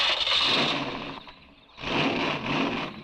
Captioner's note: engine cranks; engine revving